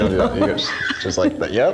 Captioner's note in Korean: 웃음